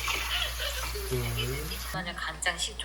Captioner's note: sizzle